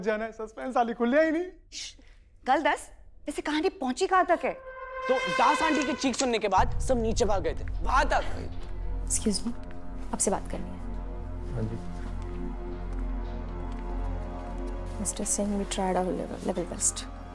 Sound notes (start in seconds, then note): 11.8 footsteps